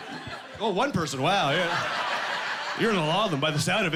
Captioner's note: laughing